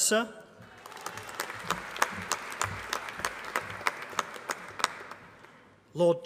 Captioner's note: applause